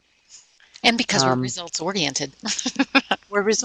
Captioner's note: laughing